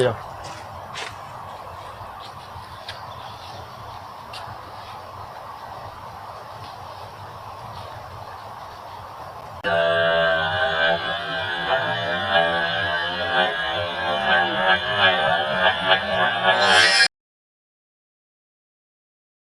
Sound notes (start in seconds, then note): 9.8 awhhhhhh!!!!